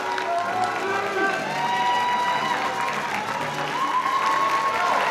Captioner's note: audience applauding; audience cheering